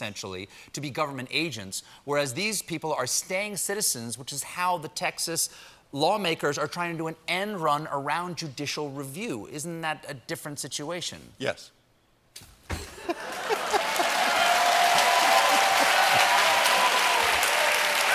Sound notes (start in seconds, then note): 13.1 applause; 13.1 cheering